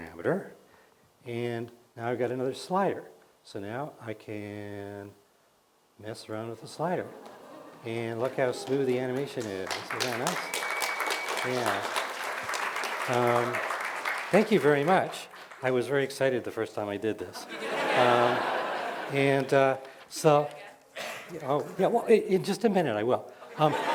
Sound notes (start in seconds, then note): 12.0 cheers and applause; 17.3 laughter